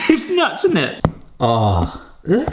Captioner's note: chuckles